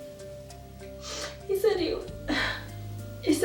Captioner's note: sighs